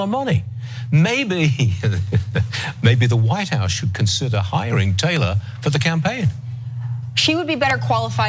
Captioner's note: laugh